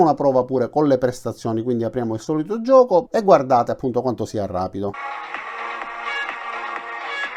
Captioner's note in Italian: Applauso